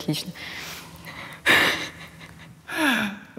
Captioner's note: laughs